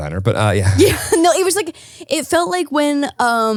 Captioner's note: laughs